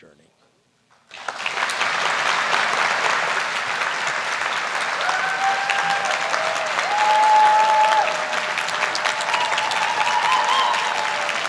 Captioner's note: applause; cheering